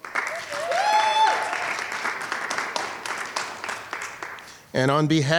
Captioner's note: audience cheering and clapping